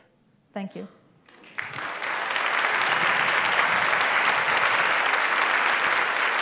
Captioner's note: applause